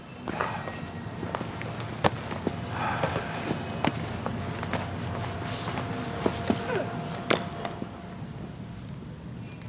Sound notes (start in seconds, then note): 0.0 sighs; 2.1 bats crack against cricket balls